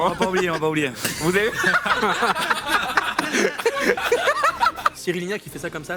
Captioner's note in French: rires